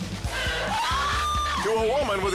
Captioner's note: woman screams